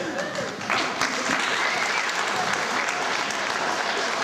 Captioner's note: applause